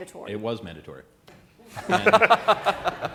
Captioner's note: laughter